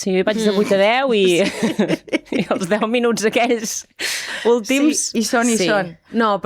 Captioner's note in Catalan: rialles